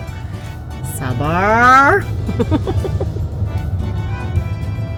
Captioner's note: laugh